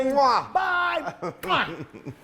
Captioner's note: laugh